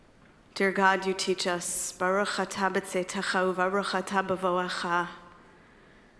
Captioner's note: speaking in foreign language